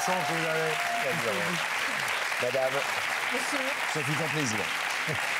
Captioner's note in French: Applaudissements